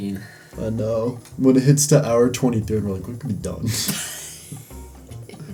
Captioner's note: wheeze